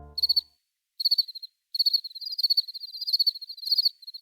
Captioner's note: crickets chirping